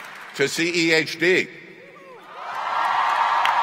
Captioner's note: cheering